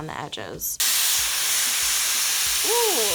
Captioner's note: dryer whirs